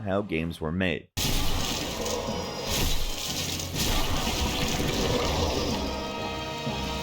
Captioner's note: intense dramatic music; blows smashing